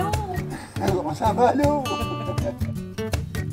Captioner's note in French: rire